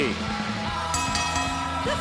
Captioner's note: bell ringing